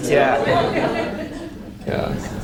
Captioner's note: audience laughs